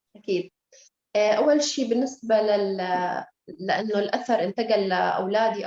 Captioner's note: speaking Arabic